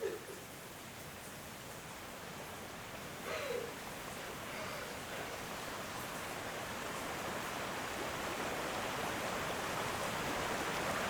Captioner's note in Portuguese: choro